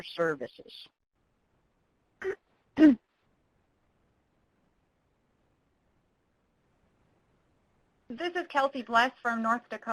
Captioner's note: pause